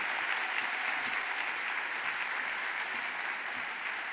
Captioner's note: audience applauds